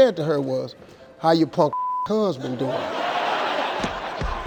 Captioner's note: beep; audience laughing